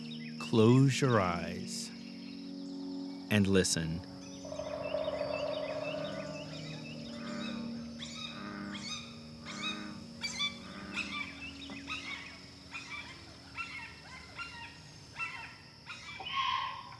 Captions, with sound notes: Close your eyes...and listen. ( animal sounds swell ) ( meditative ambient music fades )